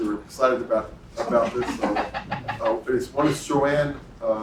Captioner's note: laugh